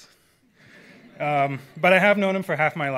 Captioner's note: audience laughs